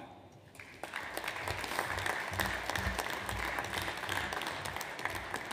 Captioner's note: audience applauds